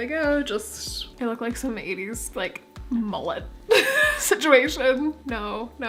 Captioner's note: laughing